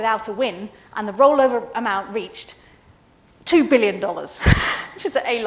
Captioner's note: laughs